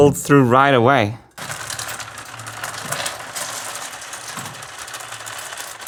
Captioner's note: marble rolling